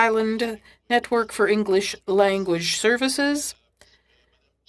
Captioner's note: speaking French